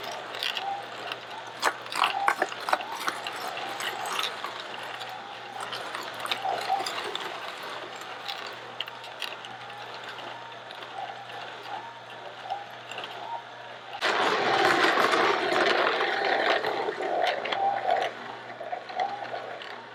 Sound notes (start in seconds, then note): 8.1 crushing sounds